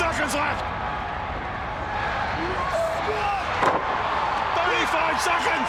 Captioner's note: crowd cheering